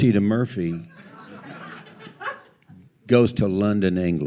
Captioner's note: audience laughs